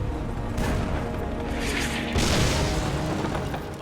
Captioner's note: shells firing